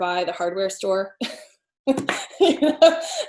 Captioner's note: laughs